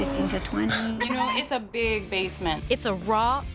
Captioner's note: baby crying